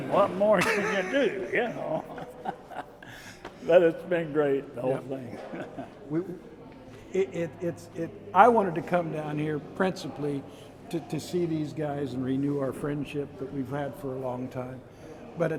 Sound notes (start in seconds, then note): 0.5 chuckling